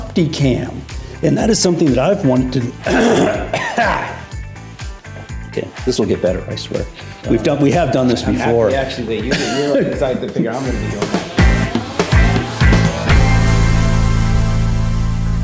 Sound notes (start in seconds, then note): 2.5 coughs; 11.1 upbeat music